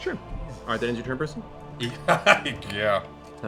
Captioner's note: laughs